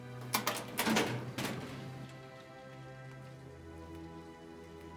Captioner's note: drawer clatters open; dark ominous music continues